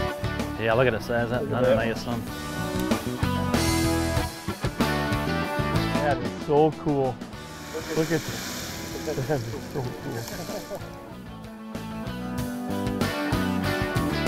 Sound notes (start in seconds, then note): 0.9 voiceover; 11.9 voiceover; 14.0 jazzy rock music